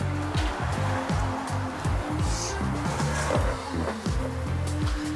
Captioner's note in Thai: เสียงปรบมือ